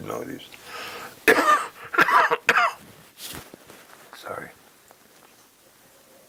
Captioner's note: cough